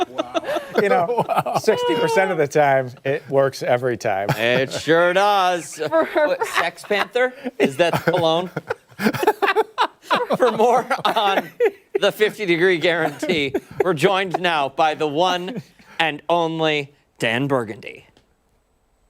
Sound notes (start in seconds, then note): 10.4 laughter